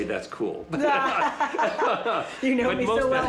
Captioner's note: both laughing